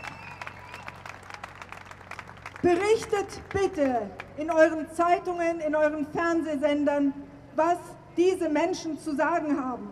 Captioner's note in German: Applaus